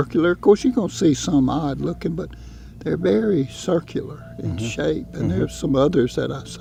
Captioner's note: hums in agreement